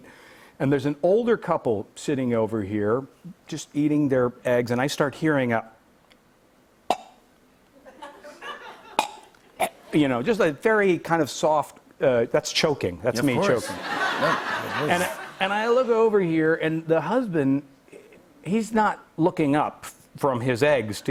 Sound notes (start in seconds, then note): 6.7 chokes; 13.4 laughter